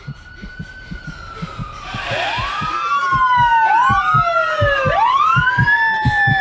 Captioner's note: woman panting; heartbeat; police sirens